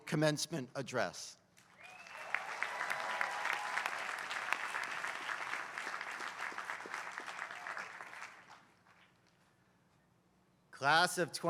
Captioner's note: applause